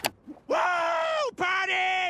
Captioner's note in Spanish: persona animando